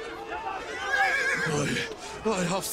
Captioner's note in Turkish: At kişneme sesi